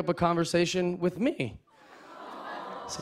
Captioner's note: audience aws